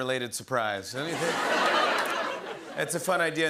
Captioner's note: laughter